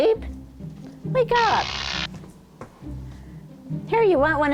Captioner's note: zap